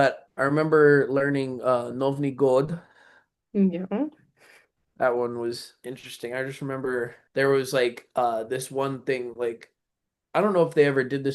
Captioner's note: russian